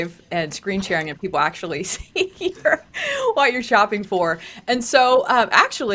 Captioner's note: laughs